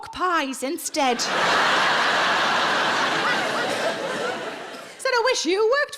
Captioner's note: audience laughs